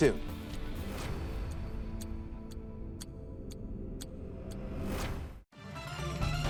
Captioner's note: upbeat music; clock ticking; upbeat music